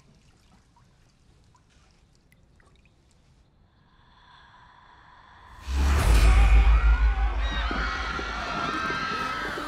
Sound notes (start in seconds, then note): 3.6 deep, slow breath; 5.8 churchgoers screaming